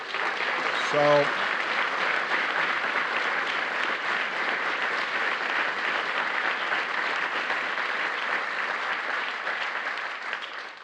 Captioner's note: applause